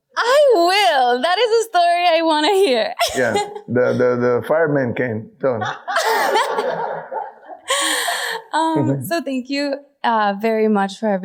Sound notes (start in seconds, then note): 5.6 audience laughing